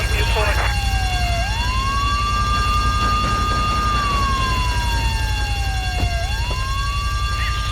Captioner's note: sirens wailing